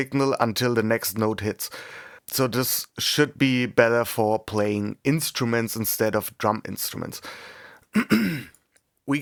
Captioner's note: cough